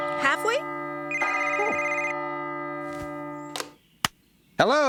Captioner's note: phone Rings